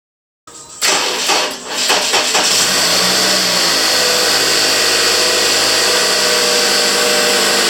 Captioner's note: engine slow cranks and then starts